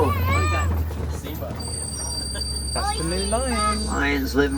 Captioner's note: crowd chattering indistinctly